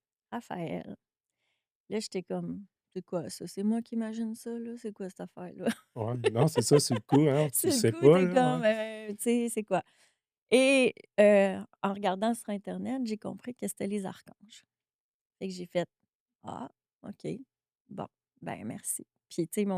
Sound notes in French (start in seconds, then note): 6.0 rires